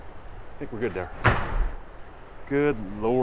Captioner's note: rock Exploding